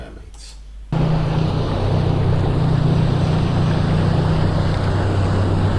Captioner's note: boat sounds